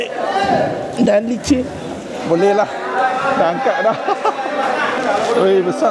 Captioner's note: laugh